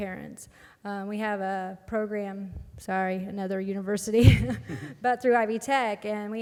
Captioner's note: laugh